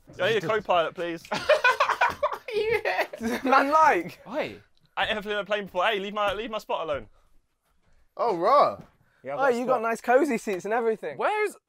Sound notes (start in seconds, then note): 1.3 laughing